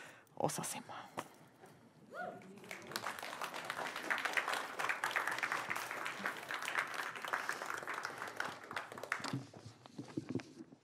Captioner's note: applause